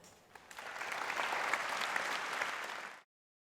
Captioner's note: applause